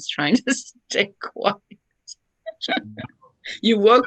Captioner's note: chuckles